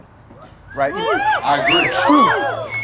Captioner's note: audience cheering